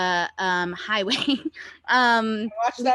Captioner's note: chuckles